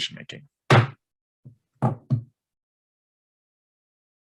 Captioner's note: gavel bangs